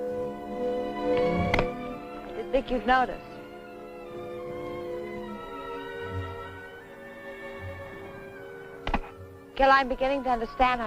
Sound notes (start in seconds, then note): 1.4 chopping wood